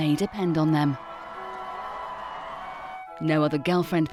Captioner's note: crowd cheering